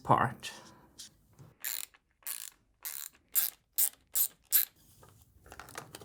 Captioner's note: ratchet clicking